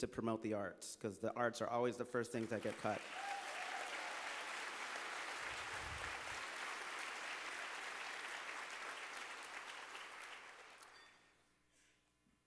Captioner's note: applause